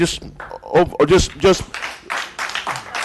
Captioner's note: applause